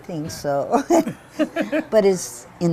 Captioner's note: laughter